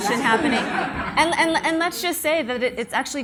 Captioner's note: audience laughs